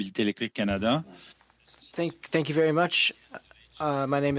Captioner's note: speaking French